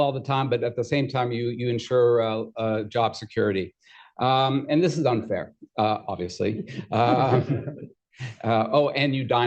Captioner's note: laughter